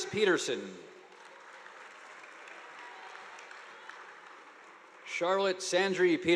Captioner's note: audience applauding